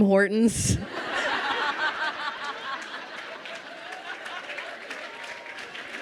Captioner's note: crowd laughing and applauding